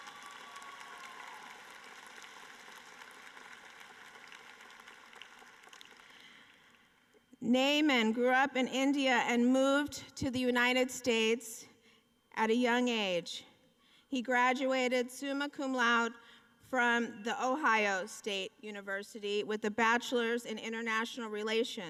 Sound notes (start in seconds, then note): 3.6 applause